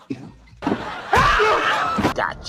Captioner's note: screaming